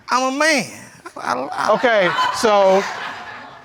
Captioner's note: audience laughing